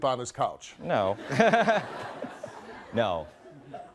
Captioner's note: laughing